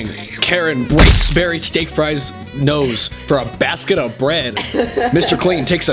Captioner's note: punch